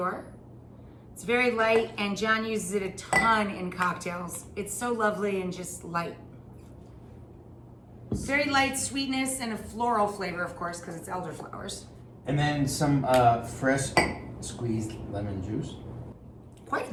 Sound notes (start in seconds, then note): none